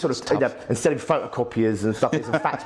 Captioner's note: laughs